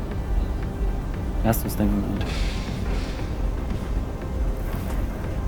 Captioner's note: Moritz speaks in German